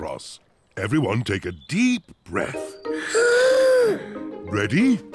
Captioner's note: all inhale